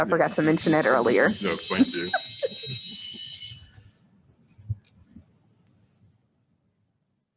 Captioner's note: laughs